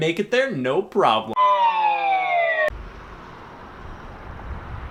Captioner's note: slide whistle plays